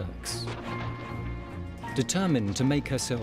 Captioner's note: gunfire blasting